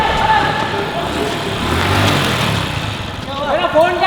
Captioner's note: vrooming